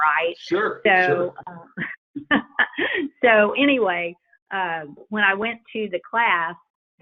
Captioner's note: laughs